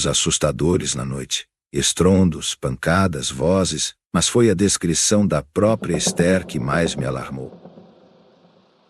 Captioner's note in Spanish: retumbos, golpes, voces